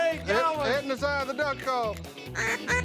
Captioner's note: duck calls